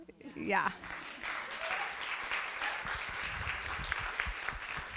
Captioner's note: audience applauding